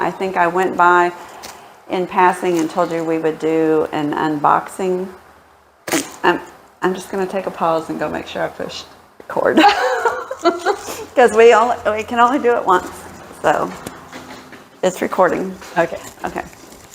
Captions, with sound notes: I think I went by in passing and told you we would do an unboxing I'm I'm just going to take a pause and go make sure I pushed record [Laughing] because we only we can only do it once so It's recording okay okay